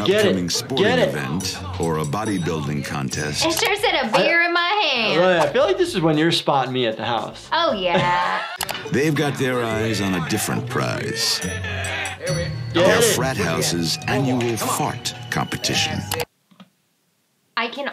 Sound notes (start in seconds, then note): 7.6 laughing